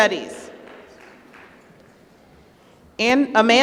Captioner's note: applause